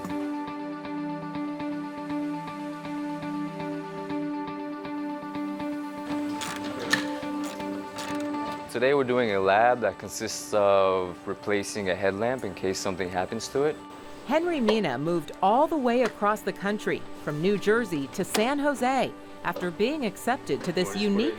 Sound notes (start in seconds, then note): 6.1 cranking tool